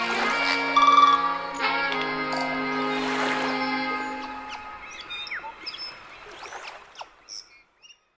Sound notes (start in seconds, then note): 0.1 sloshing water; 0.7 birds chirping; 2.5 sloshing water; 4.0 birds chirping; 5.7 sloshing water